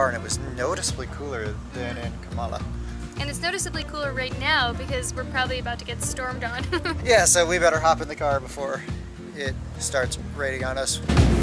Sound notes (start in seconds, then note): 6.6 laughter